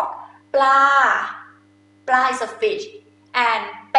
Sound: talking in foreign language

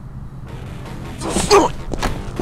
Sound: grunts

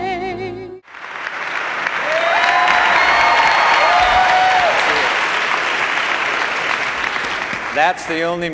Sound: cheers and applause

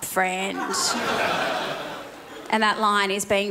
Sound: crowd laughs

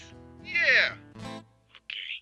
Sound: voiceover

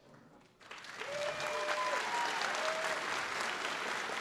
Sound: applause

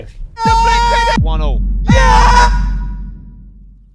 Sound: commentary shouts

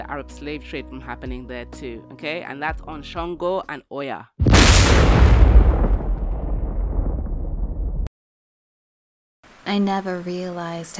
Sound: lightning& Thunder sfx

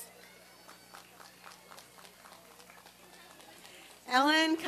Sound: applause and cheering

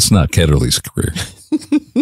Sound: chuckles

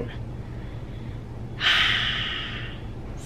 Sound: contented sigh

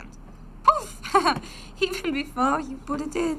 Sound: chuckles

